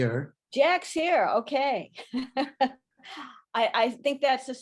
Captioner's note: laughs